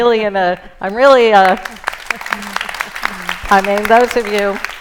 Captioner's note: applause